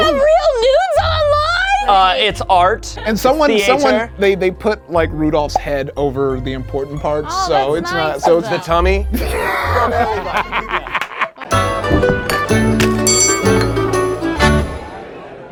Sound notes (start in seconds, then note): 10.4 all laughing; 11.4 cheerful music